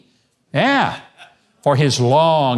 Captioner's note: man laughing